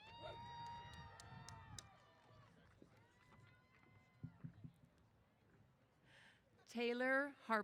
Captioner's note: cheers